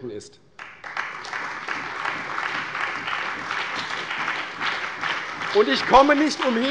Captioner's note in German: Beifall bei der CDU und dem BÜNDNIS 90/DIE GRÜNEN